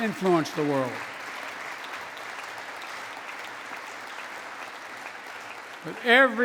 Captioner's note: applause